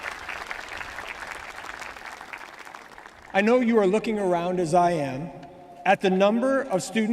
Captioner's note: applause